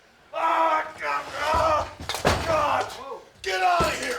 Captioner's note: table thudding